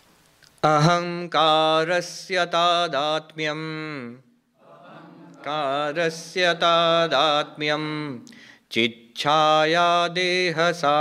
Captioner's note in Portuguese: Recitando verso em sânscrito